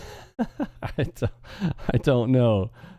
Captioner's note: laughs